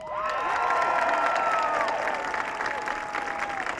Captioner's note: audience cheering